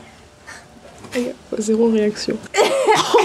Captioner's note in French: rires